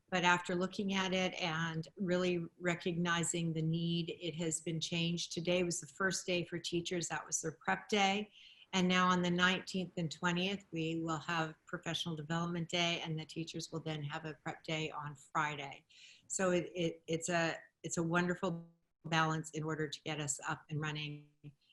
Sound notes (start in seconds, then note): none